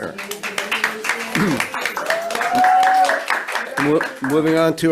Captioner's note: audience applauds and cheers